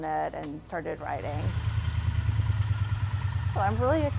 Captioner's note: motorcycle engine